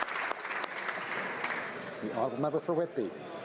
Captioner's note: speaking alternate language; some Applause